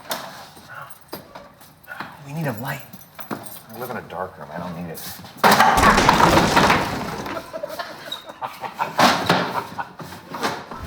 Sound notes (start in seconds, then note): 5.7 loud bang, clatter; 7.0 laughing